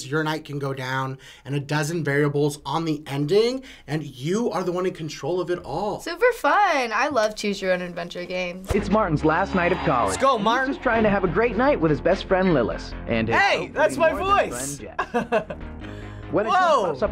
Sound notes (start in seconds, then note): 8.7 voice-over; 14.9 chuckles